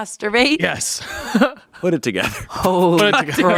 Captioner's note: laughs